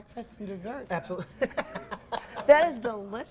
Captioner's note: laughs